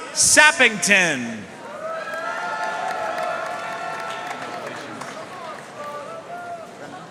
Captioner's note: audience cheering and applauding